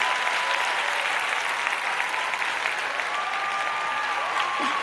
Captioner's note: applause